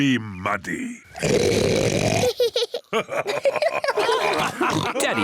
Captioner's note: oinks loudly; both laugh